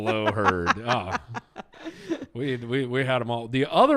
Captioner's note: laughs